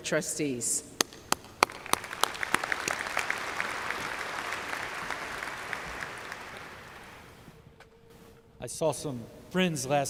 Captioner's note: applause